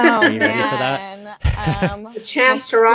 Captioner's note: laughs